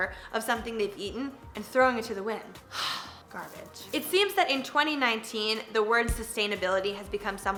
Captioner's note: sighs